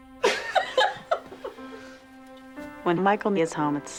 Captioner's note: chuckles